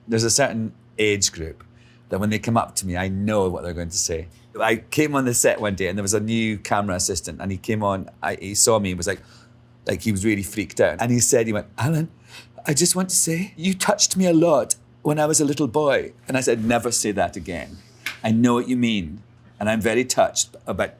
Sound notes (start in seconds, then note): 9.2 Alan gasps